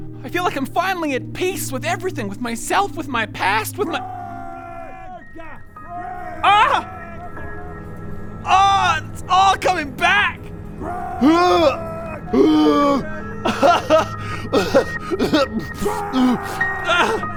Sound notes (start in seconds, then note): 13.4 sobs; 14.5 traumatic cry